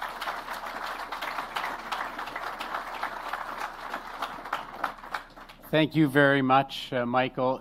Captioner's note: applause